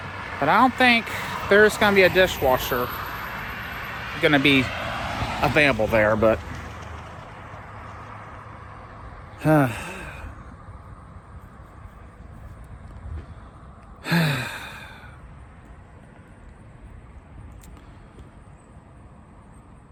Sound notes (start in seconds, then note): 7.9 Ava sighs